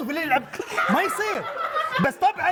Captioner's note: laugh